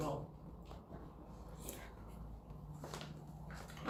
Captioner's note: slurp